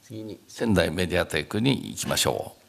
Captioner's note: speaking japanese